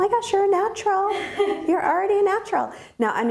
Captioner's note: laughing